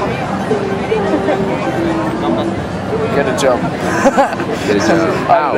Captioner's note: laughing